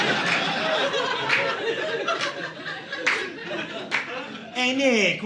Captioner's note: audience laughing